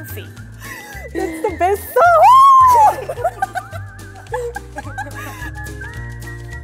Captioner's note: laughs; light, bright music